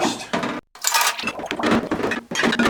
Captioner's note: bottles clanking together